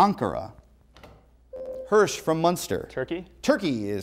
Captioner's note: buzzer